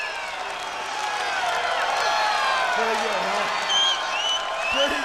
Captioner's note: crowd cheering